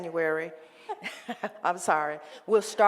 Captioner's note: laughing